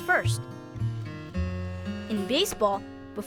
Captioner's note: sighing